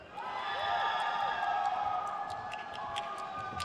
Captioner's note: crowd cheers